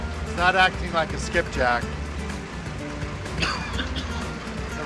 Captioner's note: coughs